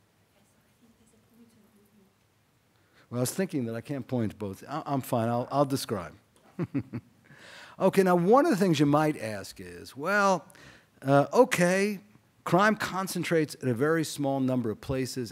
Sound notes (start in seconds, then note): 6.4 chuckles